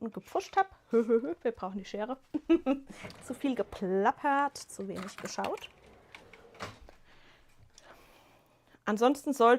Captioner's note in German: gelächter